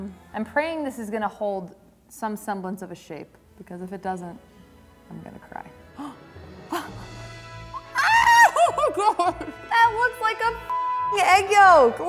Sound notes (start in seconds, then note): 6.0 gasps; 7.9 laughing; 8.3 squeals; 10.7 beep